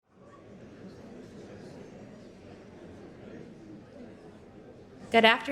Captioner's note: audience chattering indistinctly